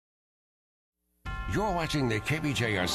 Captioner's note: voiceover